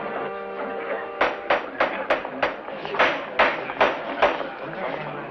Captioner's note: gavel banging